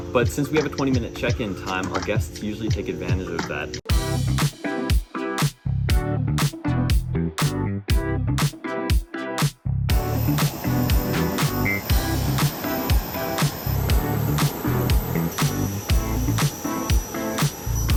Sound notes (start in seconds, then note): 4.1 lively upbeat music; 10.4 plane whirring; 12.0 lively upbeat music; 14.5 propellers spinning